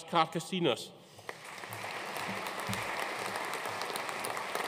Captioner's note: audience applauding